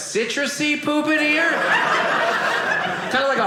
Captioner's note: audience laughing